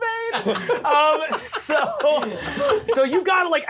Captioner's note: laughing